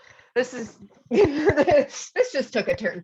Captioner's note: laughter